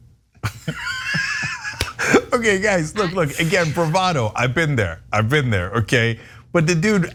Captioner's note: laugh